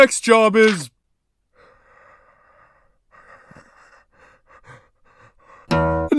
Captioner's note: heavy breathing